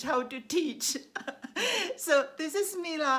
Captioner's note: laughs